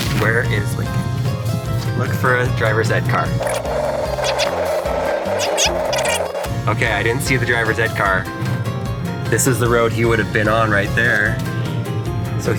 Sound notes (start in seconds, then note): 3.3 video rewinding